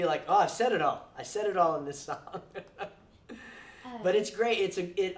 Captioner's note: laughs